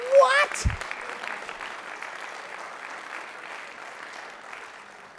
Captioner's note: clapping